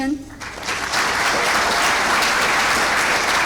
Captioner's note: clapping